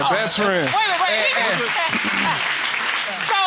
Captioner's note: audience applauds